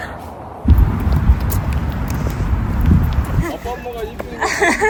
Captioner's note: excited steps